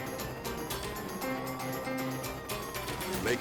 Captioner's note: exciting music; sirens wailing